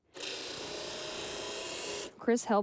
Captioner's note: saw buzzing